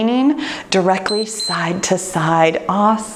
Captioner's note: timer beeps